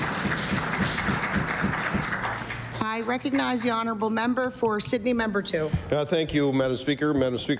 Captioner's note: applause